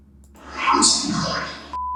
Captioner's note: disembodied Voice; beeps